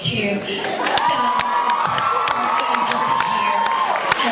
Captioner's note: cheers